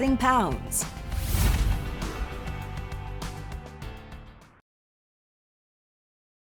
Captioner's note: bright music; air whooshes